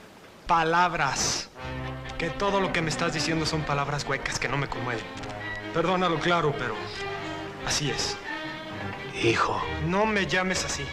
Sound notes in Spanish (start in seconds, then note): none